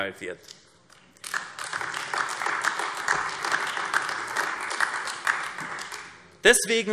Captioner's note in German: Beifall AfD